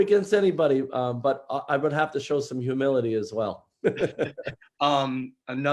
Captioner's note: laughs